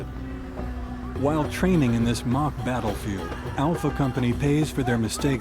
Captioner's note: voiceover